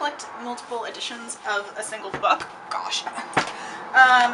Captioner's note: dropping books